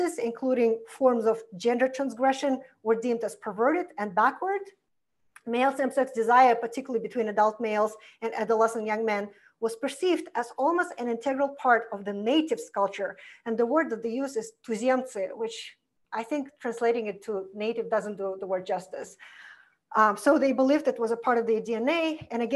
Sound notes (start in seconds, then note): 14.5 foreign language